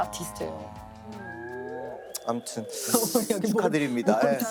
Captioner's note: mm-hmm